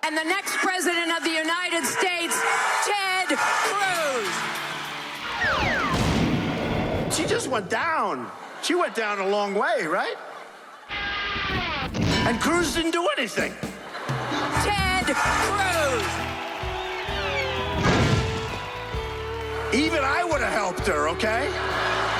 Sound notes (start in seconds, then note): 5.2 playful whistle; 16.6 rock music